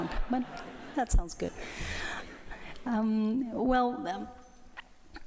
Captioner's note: light laughter